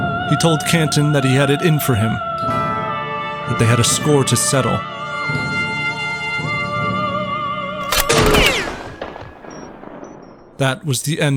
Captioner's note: gunshot